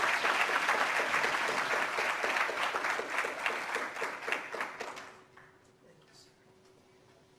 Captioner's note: applause